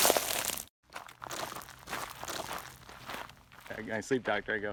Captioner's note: footstep crunches; footsteps crunching